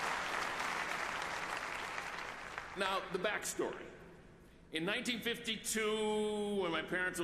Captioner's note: applause